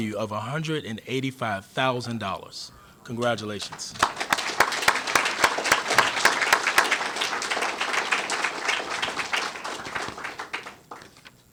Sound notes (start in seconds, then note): 5.7 applause